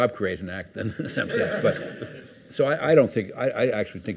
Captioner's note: audience laughs